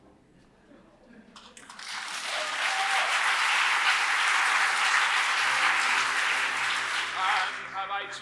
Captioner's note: applause